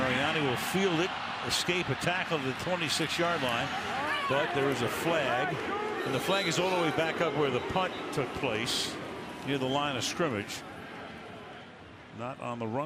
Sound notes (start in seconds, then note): 6.1 crowd chanting "kuhn"